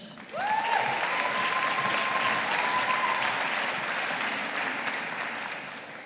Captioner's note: audience applauding